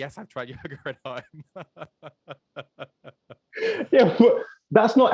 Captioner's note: laughing